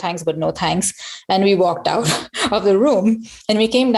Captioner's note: laughs